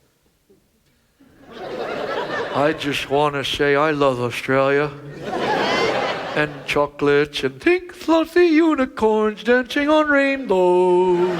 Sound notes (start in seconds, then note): 1.3 audience laughs; 4.9 audience laughs; 10.8 audience laughs